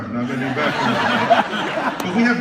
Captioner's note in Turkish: Kahkahalar